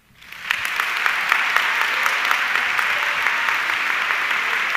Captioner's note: audience clapping